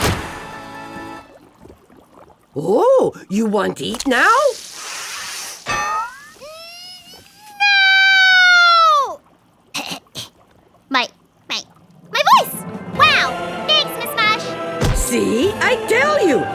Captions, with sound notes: OH! YOU WANT EAT NOW? (TAKES A BIG WHIFF) NNNN... NOOOO! (CLEARS THROAT) MY, MY, MY VOICE! WOW! THANKS, MISS MUSH! SEE? I TELL YOU, IT FIX EVERYTHING!